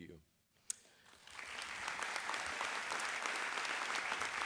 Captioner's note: audience applause